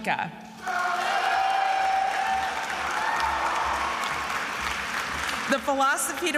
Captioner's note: attendees applauding and cheering